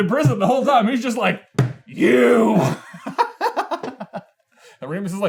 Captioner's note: giggles